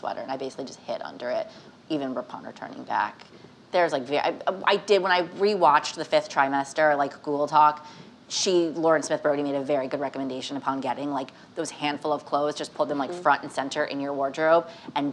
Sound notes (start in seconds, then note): none